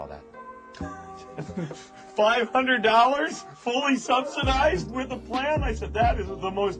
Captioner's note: laughs